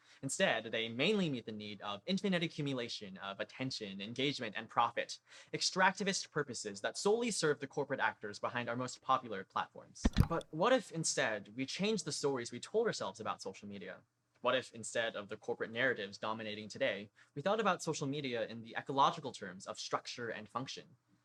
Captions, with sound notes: instead, they mainly meet the need of infinite accumulation of attention, engagement, and profit: extractivist purposes that solely serve the corporate actors behind our most popular platforms. (click) But what if, instead, we changed the stories we told ourselves about social media? What if, instead of the corporate narratives dominating today, we thought about social media in the ecological terms of structure and function?